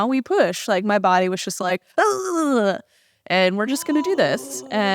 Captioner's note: grunting noise